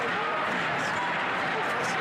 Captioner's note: crowd Noise